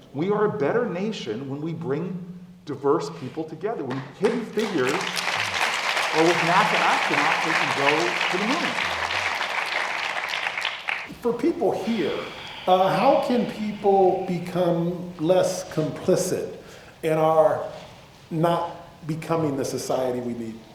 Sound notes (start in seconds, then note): 4.5 applause